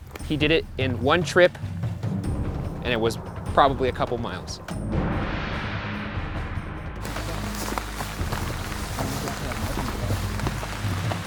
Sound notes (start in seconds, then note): 5.1 exciting music; 7.0 water hissing